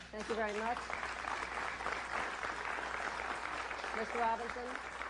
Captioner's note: applause